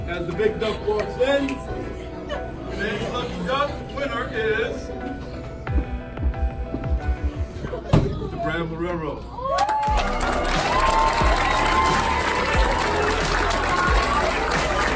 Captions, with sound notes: As the big duck walks in, today's lucky duck winner is... Mr. Brad Marrero. (audience applauds)